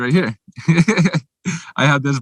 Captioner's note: laughing